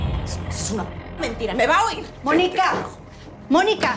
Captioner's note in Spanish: Campanilla del elevador